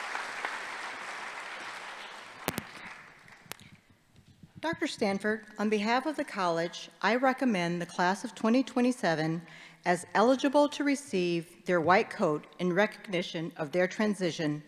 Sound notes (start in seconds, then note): 1.5 applause